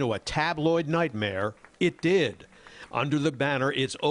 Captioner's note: applause